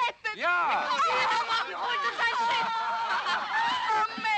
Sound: women talking

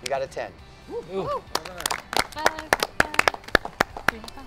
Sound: contestants applaud

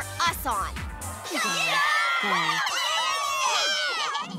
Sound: cheering

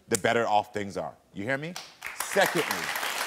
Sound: audience applauds

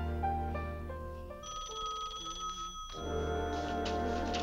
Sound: phone rings

